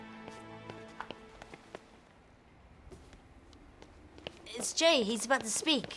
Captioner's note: footsteps approaching